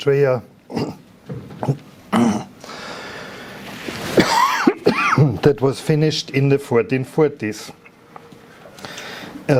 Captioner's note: coughing